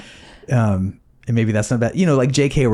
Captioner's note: laughing